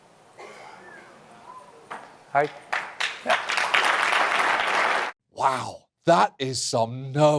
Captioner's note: crowd whistles, hesitant applause